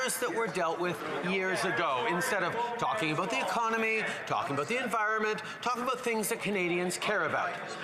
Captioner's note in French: voix de l'interprète